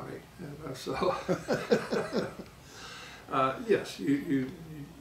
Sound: laughing

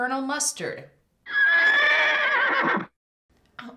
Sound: horse Whinnying Sound Effect

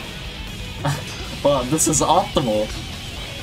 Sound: scoffs

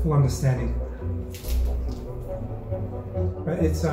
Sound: audible crunch

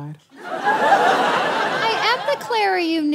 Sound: audience laughs

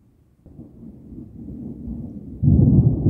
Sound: thunder starts; deep thunder booms and echoes

